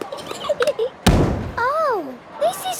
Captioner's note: giggling, thudding